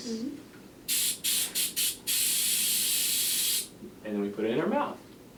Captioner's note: air blowing